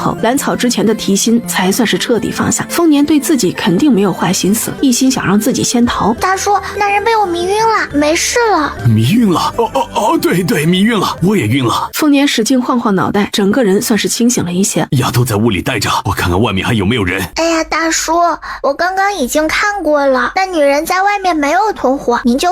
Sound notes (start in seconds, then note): 9.3 murmurs affirmatively